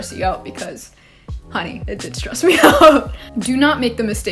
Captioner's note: laugh